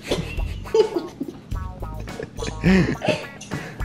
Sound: giggling

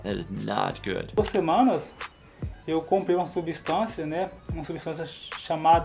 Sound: speaking foreign language

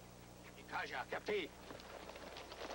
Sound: speaking Sioux

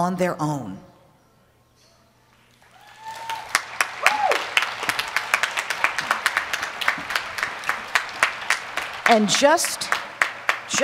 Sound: applause

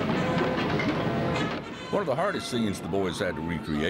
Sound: voiceover

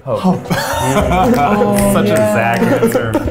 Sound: laughs

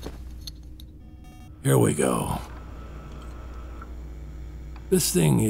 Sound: sounds of mechanisms

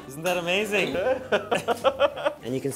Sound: they laugh

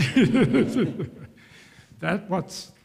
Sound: laughs

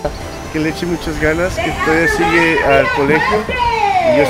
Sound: happy music; foreign language

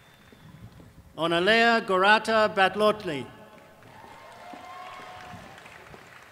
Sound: applause

